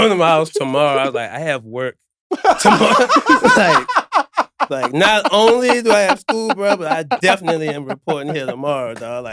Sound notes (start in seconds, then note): 2.4 laughing